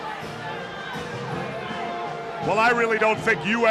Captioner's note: crowd chatter